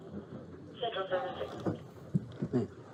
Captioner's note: radio chatter